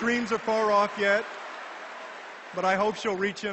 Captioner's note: audience laughs and cheers in reaction